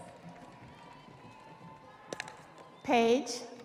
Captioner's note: audience applauding; audience cheering